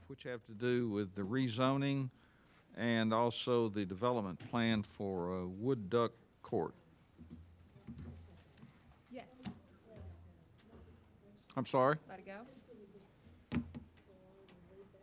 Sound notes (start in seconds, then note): 9.3 speaking off mic